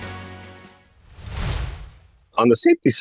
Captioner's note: screen whooshing